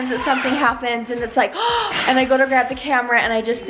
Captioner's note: gasps